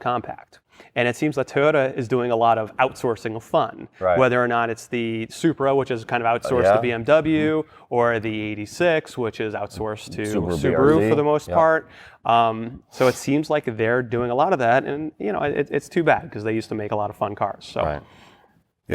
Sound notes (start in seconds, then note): none